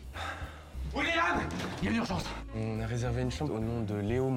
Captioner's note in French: soupir